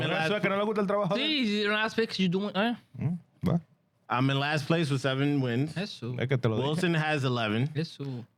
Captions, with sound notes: (Speaking In Foreign Language) You don't have to fix, you don't? I'm in last place with seven wins. Yes, sir. Wilson has 11. Yes, sir.